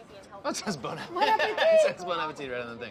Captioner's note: laughs